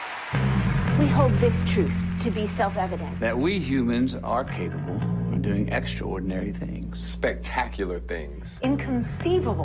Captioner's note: cheers and applause